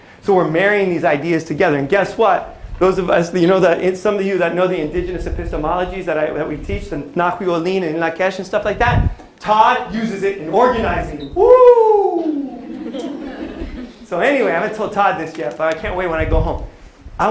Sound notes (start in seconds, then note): 6.9 non-english speech